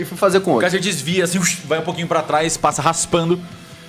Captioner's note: whoosh